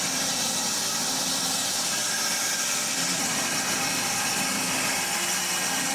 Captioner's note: saw whirring continues